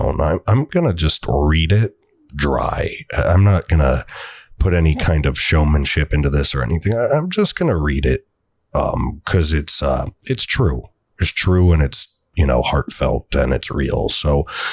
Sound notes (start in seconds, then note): 4.1 exhale